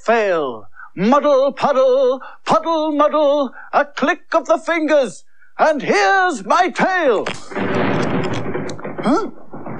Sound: sound Of Thunder

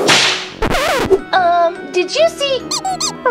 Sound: whip cracking; record scratching; comical honking

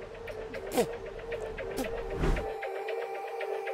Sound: spitting out a bug

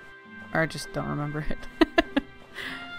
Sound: laughs

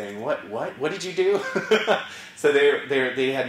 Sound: laugh

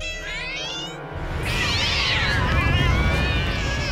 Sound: meowing

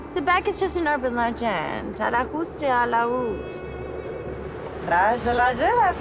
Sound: speaking foreign language

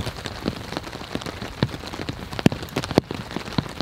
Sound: rain pouring

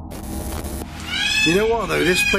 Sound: peacocks squawking

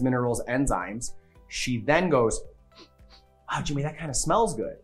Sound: sniffing

